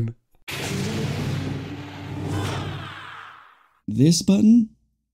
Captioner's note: very serious door sound